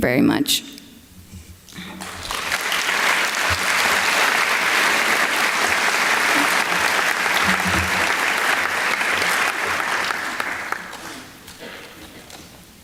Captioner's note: applause